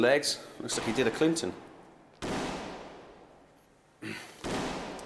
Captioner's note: guns firing